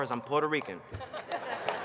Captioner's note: laughter